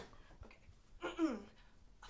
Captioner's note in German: räuspert sich